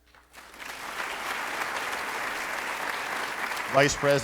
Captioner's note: applauding